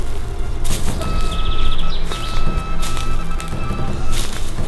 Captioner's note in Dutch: opnieuw piep van ver weg